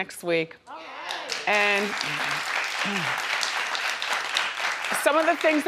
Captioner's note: audience applauding